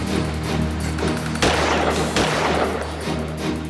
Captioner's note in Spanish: Disparos